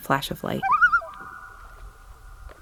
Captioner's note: loon tremolo